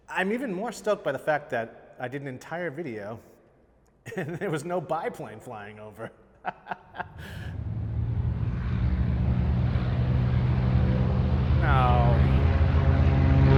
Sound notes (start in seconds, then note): 7.0 airplane flying